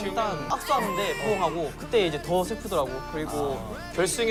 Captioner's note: burst crying